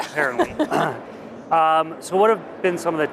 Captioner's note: laughter